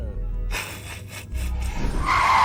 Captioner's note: snickers